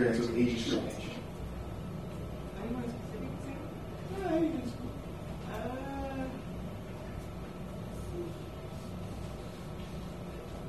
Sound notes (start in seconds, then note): 4.9 mumbles affirmatively